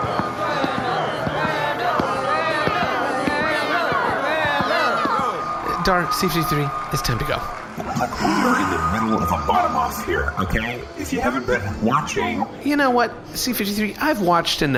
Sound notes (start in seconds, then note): 4.0 the crowd chants name; 7.9 sighs